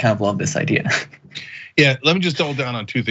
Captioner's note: laugh